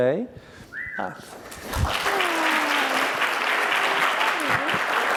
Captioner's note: audience clapping